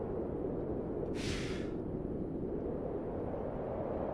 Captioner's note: Preston lets out a frustrated breath